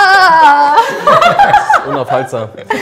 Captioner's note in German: Gelächter